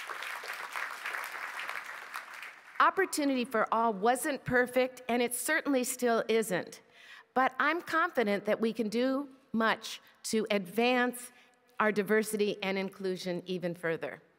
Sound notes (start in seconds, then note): 4.2 applause